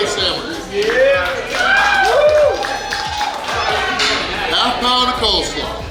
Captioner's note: cheering & Clapping